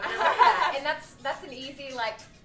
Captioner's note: laughter